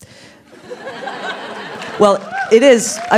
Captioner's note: laughs